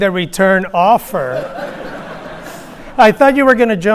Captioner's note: audience laughing